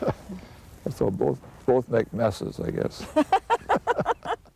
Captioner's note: laughing